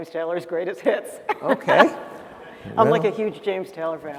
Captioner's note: laughter